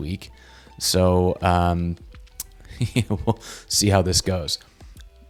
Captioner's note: laughs